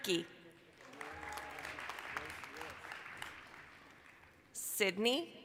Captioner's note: applause, cheering